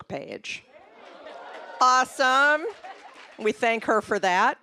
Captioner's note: applause, cheering